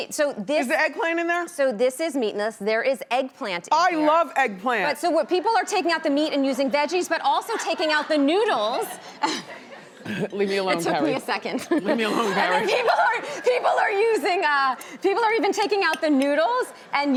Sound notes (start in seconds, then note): 8.8 laughs